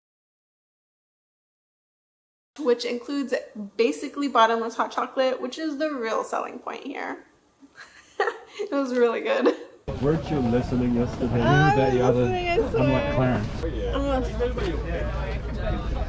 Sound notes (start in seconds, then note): 7.7 laughs